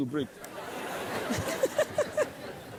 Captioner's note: laughter